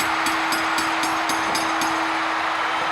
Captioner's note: bell ringing; crowd cheering